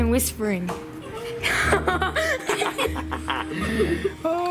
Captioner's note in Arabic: يضحك